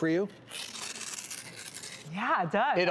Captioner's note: paper rips